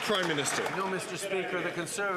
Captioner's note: some Applause